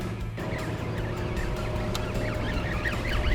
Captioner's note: line whirring